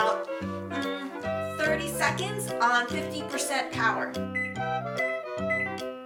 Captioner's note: beeping